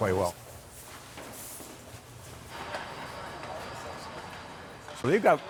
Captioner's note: footsteps tapping